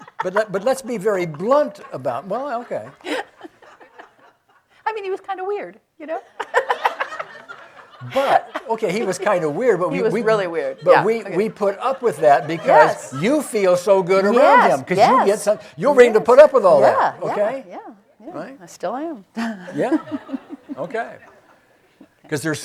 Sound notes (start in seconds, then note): 0.0 loudly laughs; 0.0 audience laughing; 7.3 laughing; 7.9 audience laughing; 19.3 chuckles; 19.4 audience laughing